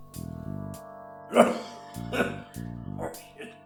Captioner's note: coughing